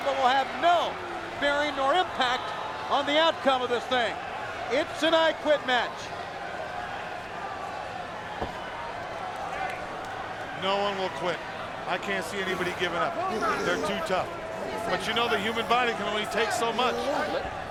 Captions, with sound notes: but will have no bearing nor impact on the outcome of this thing. It's an I Quit Match. (crowd chattering) No one will quit. I can't see anybody give up. They're too tough. But you know the human body can only take so much.